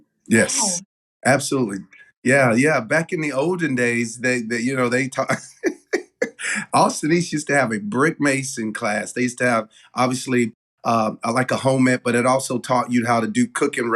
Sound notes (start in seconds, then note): 5.0 laugh